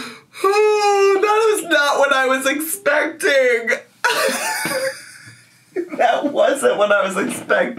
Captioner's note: laughs; laughs